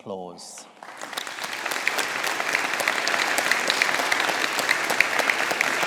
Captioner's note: audience applauding